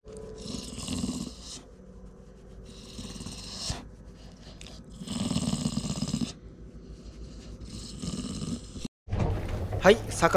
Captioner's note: purring